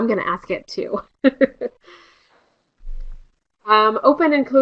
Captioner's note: laughter